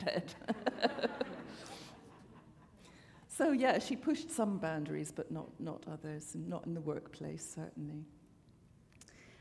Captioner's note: chuckle